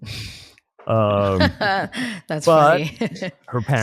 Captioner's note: laughs